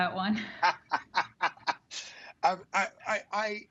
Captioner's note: laughs